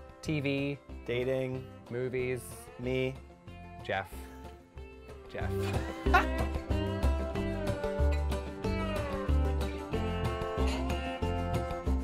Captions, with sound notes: TV. - Dating. - Movies. - Me. - Jeff. Jeff. (laughs) (upbeat music)